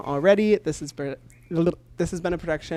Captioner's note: stutters then says gibberish